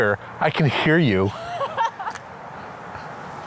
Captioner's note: laughs